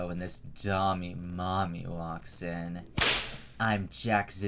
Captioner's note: whip Crack